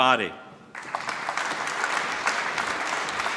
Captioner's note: applause